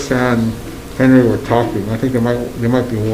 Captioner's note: gavel bangs